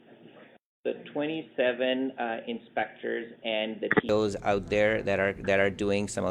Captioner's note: voice muffled